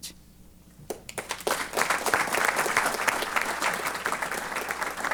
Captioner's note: applause